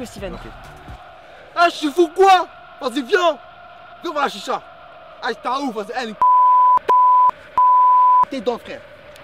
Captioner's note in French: bip